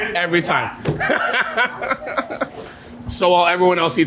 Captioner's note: laughing